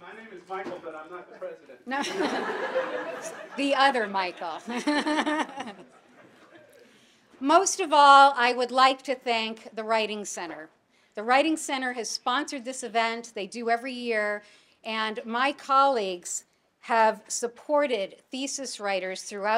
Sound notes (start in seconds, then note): 1.9 audience laughing